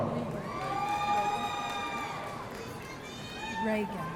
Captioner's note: audience cheering